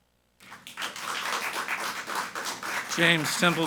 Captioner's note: people clapping